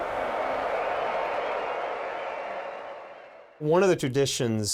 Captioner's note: cheering